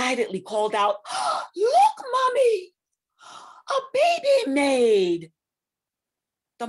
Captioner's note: gasp